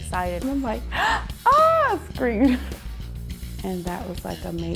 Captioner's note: gasps